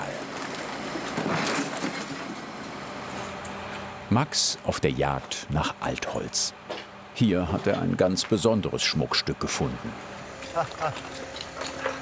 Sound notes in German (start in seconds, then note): 10.4 Lachen